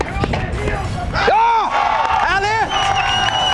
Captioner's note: yells